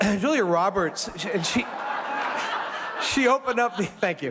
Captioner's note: audience laughs